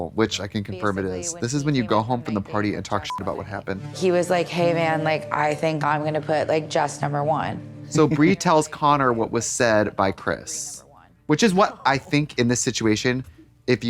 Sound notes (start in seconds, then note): 3.0 beep